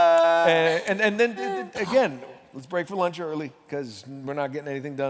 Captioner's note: laughter